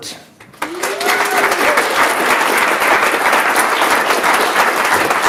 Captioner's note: audience cheers and applauds